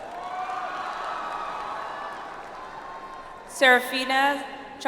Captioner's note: audience applauds